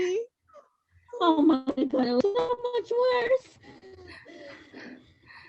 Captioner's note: on the ground in a little ball crying